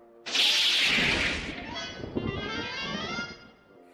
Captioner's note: lighting strikes